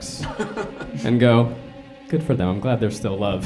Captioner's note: chuckles